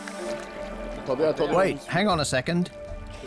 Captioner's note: speaking French